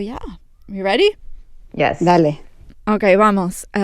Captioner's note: speaking Spanish